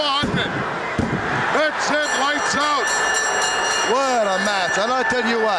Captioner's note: bell ringing